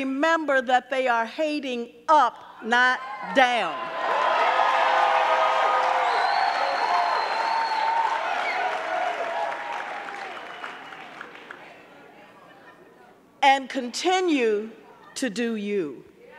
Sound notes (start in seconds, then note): 3.6 audience cheering; 4.1 audience clapping